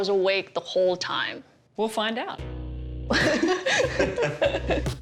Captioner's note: laughter